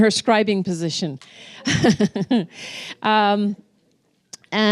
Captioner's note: laughing